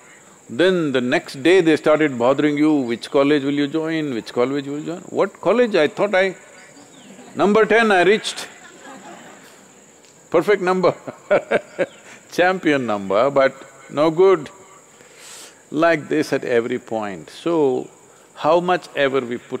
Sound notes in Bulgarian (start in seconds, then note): 11.4 Смее се